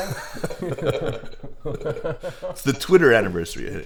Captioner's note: both laugh